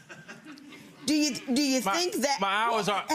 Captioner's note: audience laughing